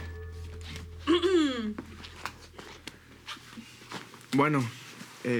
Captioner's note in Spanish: Carraspea